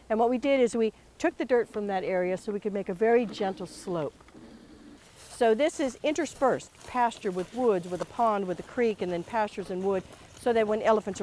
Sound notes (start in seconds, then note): 4.0 walking